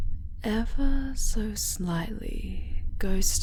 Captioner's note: none